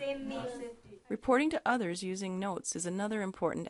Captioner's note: voiceover